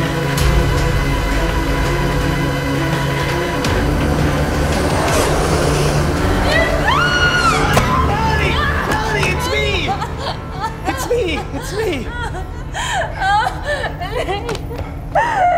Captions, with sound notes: (Melanie screaming) - Melanie, Melanie, Melanie, it's me. It's me, it's me. (crying) - Nate.